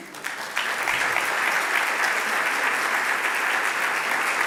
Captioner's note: applause